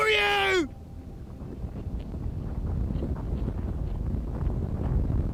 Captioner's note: ground rumbling